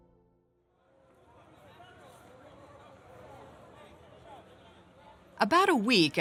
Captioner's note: conversation noises